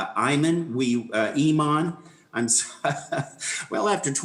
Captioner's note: laughs